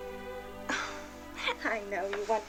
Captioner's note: chuckles